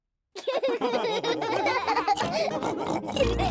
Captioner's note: all laughing